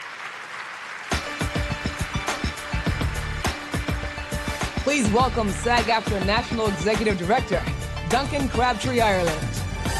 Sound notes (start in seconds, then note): 0.0 audience applauds; 1.3 energetic music; 9.8 energetic music